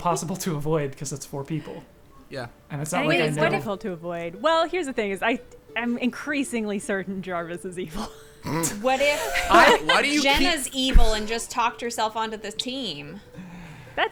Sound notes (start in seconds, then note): 7.9 players laughing laughing